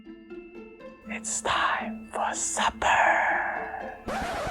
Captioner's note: whispers